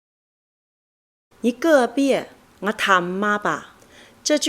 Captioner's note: is speaking in her native dialect